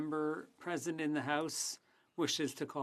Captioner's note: speaking French